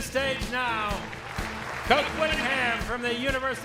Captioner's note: audience applauds